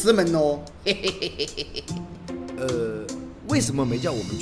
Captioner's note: laugh